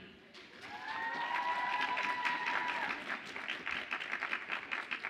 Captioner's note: audience applauds and cheers